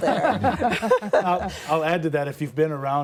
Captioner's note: laughter